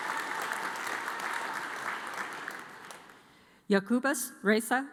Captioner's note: audience applauds